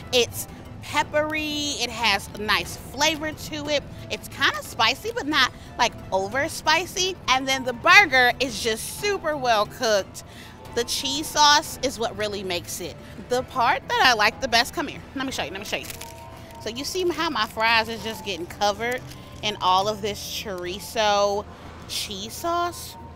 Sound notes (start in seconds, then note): none